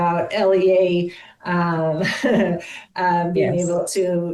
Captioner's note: chuckles